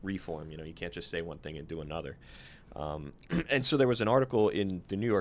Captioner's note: clears throat